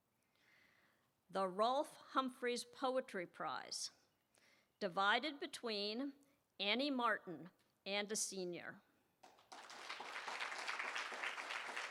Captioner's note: applause